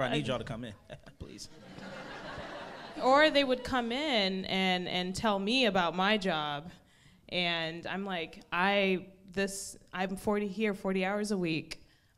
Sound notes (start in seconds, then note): 1.3 crowd laughs